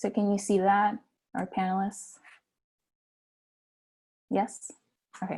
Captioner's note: silence